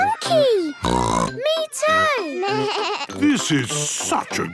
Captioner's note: snorts; bleating